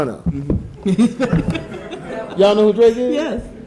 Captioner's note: audience chuckling